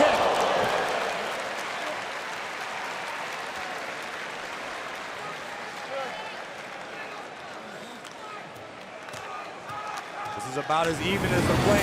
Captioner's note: crowd cheering